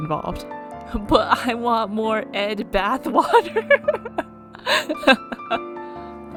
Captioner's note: laughs